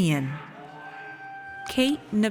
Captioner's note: audience cheers